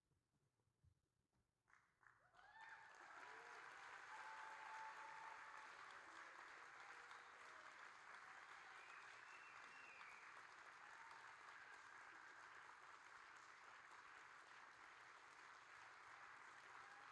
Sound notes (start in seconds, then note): 2.2 audience cheering